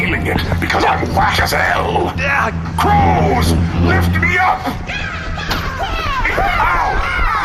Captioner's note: cawing